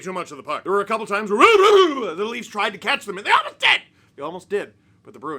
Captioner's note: mouth noises